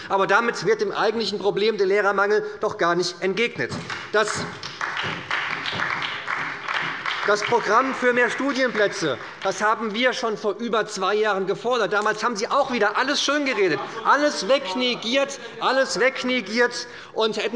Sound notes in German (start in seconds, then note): 3.7 Beifall bei der SPD